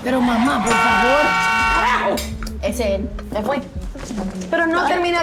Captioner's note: car horn sound